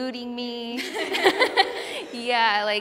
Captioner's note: laughter